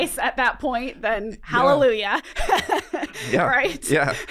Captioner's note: laughs